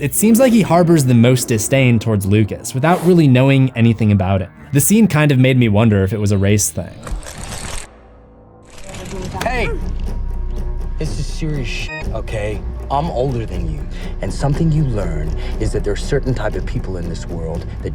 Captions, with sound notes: it seems like he harbors the most disdain towards Lucas, without really knowing anything about him. The scene kind of made me wonder if it was a race thing. - Hey! This is serious (beep) okay? I'm older than you, and something you learn is that there are certain types of people in this world